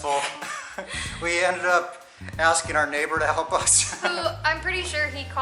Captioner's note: laughter